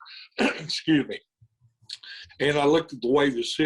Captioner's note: coughs